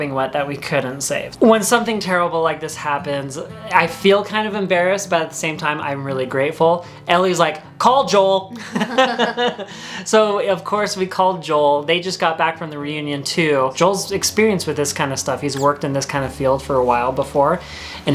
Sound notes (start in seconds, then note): 8.5 laughs